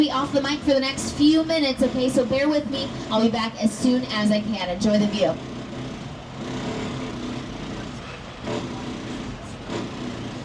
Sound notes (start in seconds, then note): 6.8 tram rattling